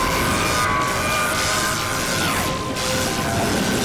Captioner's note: scream